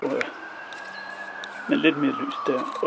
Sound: police siren; camera clicks

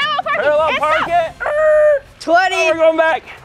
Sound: imitates car brakes squealing

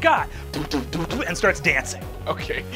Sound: beat boxes

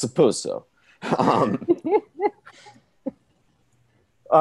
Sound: laughing

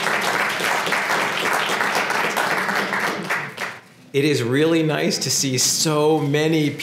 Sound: applause

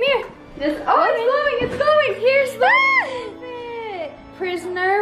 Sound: squeals

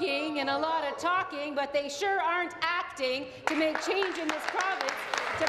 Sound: applause

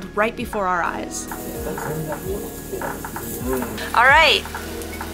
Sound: meat sizzling

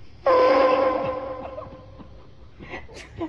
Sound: horn echoes

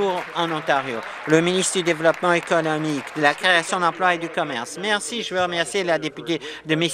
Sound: applause

